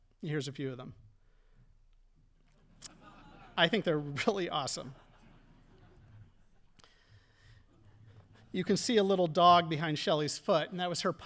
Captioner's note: audience laughing